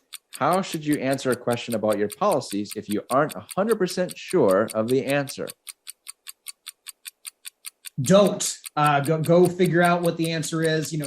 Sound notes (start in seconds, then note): 5.2 ticking resumes